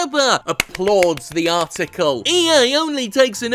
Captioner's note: applauding